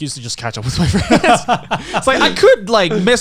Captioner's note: Garnt laughing